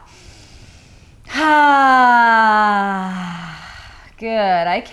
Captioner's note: sighing deeply